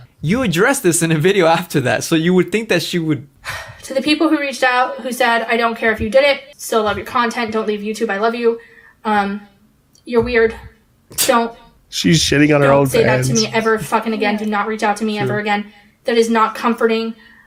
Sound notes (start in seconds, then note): 3.4 sighs; 12.9 chuckles